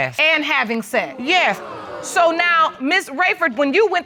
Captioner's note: audience exclaiming